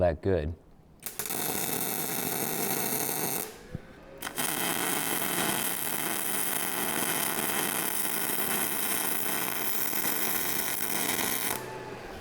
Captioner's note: drilling